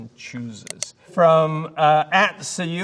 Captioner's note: mouse clicking